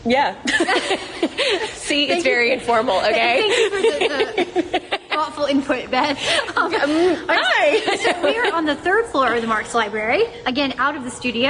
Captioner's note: laughter